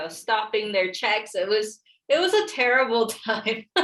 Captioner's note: laughs